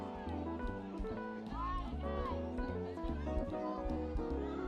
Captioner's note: people chattering